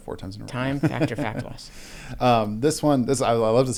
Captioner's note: laughs